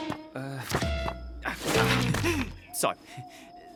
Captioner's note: chuckles awkwardly